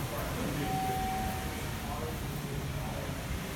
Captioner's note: elevator Chimes